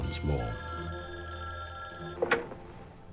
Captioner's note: phone ringing